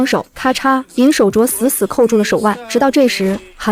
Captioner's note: crack!